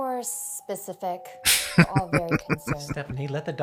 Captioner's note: laughing